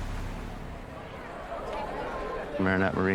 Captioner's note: crowd murmuring